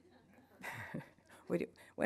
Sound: audience laughing; laughing

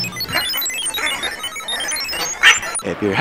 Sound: robot sounds

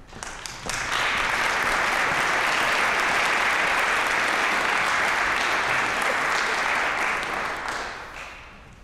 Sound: applause

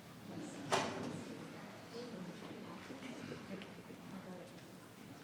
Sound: people continue chattering

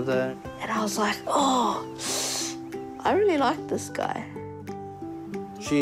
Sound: inhales sharply

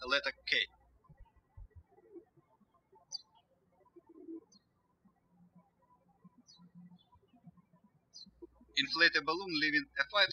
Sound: birds chirping

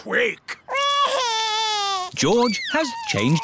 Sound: crying

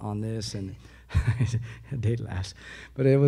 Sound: laughs

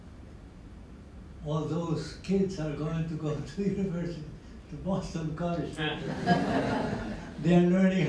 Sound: laughter

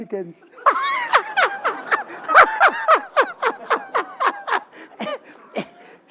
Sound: laughter

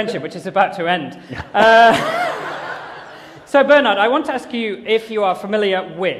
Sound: laughter

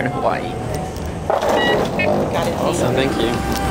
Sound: scanner beep

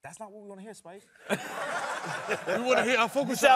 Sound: laughing

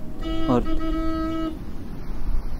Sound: distant car horn

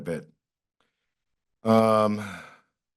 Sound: pause

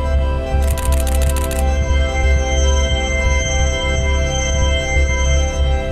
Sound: camera shutter clicking

